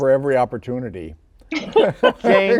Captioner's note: laughter